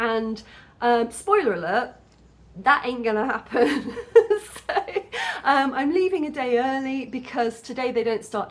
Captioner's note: laughing